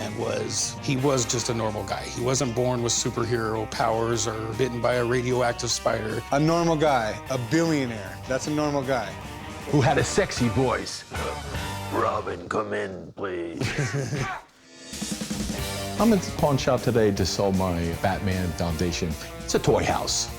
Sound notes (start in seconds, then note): 11.3 deep voice; 13.4 chuckles